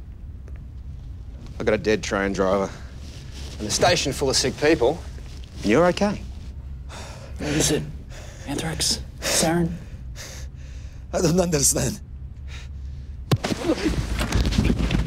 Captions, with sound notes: I got a dead train driver and a station full of sick people. And you're okay. - What was it? Anthrax? Sarin? (breathing heavily) - I don't understand. Oh!